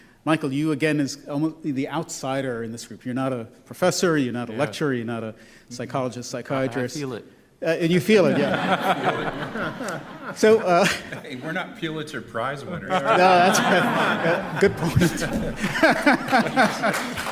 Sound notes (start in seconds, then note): 8.2 laughter; 12.8 laughter